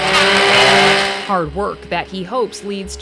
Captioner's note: power tool buzzing